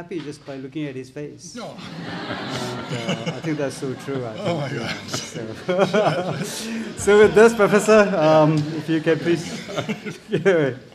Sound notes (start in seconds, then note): 1.7 audience laughs